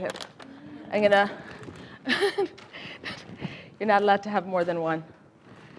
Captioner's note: laughing